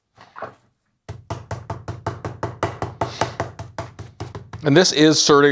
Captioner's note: rolling pin thumping